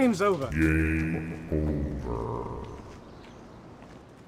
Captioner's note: sound effect voice "Game Over"